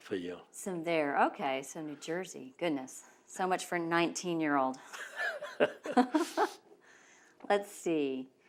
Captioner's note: laughs